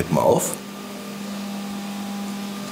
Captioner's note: whirring